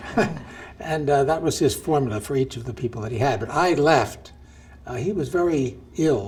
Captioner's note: chuckle